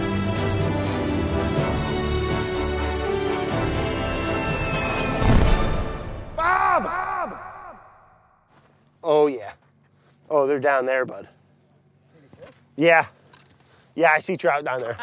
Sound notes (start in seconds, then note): 0.0 inspirational music continues; 4.8 auger drilling